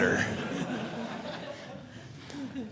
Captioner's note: audience laughing